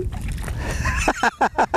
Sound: splash; crazy laughter

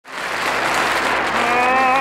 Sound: audience applauding

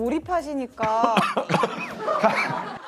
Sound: coughing

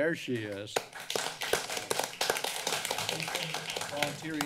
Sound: applause

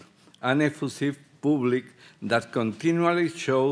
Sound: speaking Spanish

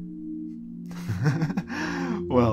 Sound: chuckling

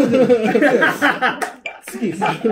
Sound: laughing

